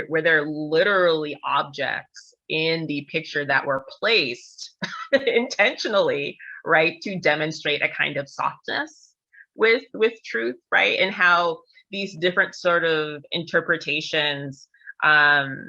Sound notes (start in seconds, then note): 4.7 laughter